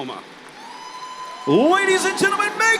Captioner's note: applause